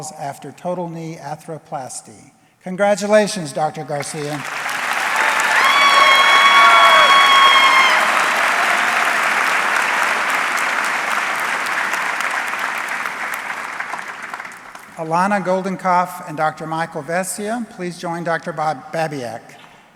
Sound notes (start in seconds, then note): 5.9 audience cheering; 11.0 audience clapping